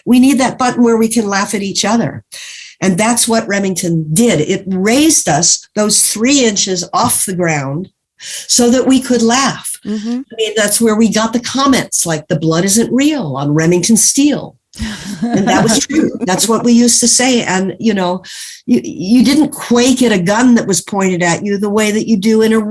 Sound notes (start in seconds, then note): 14.8 laughs